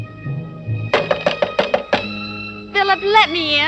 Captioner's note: knocking on door